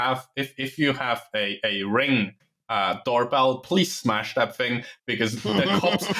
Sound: laughter

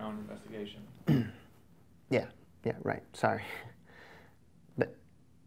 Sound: clears throat

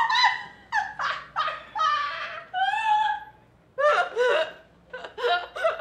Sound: still laughing

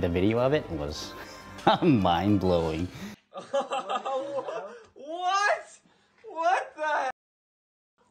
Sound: laughs

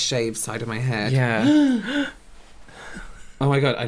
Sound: more Gasping At Their Accomplishments

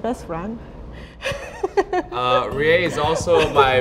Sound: laughs

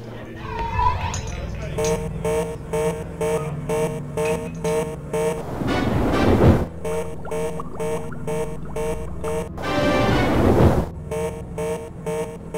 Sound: general Alert alarms sound

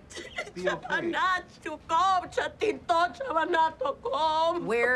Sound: yells in foreign language

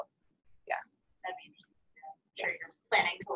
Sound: voiceover

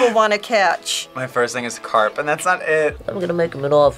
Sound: laughs

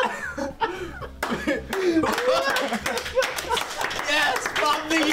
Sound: applause

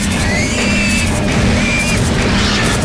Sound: gunfire and pig noises; explosion

